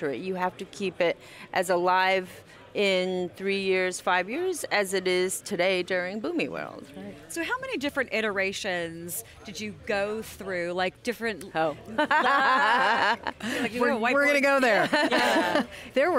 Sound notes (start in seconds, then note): 11.9 laughter